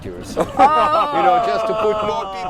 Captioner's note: laughing